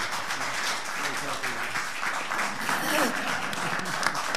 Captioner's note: all applauding